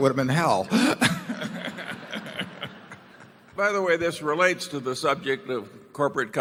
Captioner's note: laughter